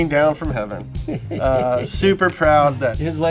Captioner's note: laughs